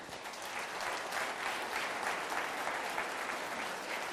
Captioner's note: applauding